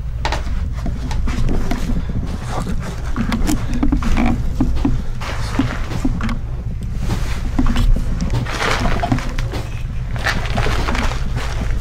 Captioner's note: strange knocks and sounds from the lower floor